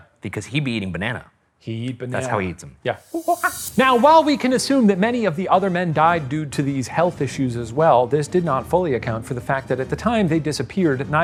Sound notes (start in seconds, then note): 3.1 imitates monkey chattering